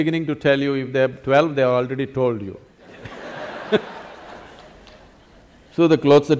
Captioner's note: laughter; 笑聲